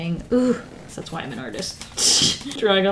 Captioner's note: laughs